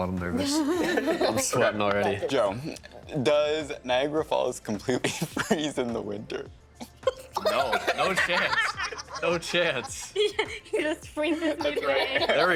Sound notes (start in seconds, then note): 1.2 all laughing; 10.0 laughing